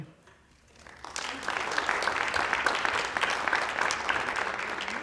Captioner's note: applause